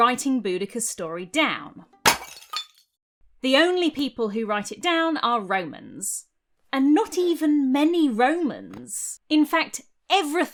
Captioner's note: smash